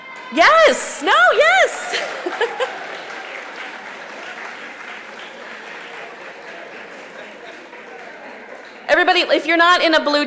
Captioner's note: applause